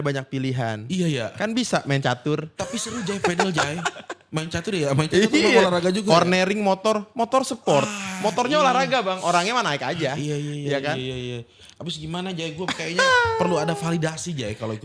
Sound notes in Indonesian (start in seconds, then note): 2.6 tertawa